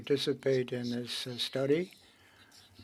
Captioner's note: speaking French